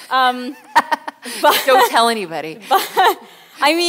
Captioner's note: laughs